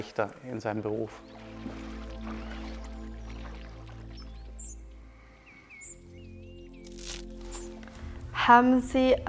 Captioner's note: nature sounds